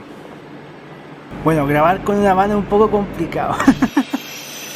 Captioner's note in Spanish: risas